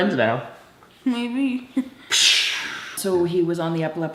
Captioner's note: chuckles